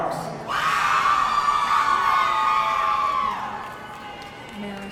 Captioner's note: audience cheering